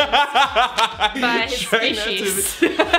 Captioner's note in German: lacht; kichert